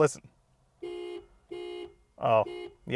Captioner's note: car horn beeps